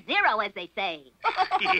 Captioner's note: laughing